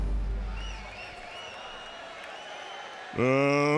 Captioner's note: audience cheers